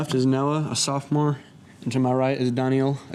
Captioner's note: none